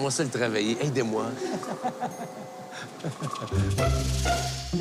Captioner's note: Rires